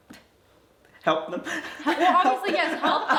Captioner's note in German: lacht